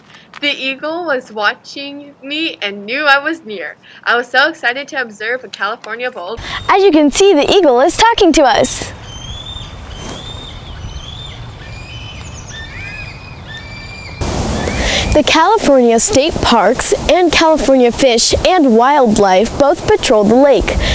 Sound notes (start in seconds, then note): 12.1 eagles squacking